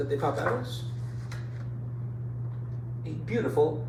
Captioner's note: page rustling